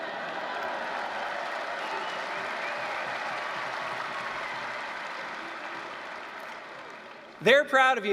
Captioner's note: applause, cheering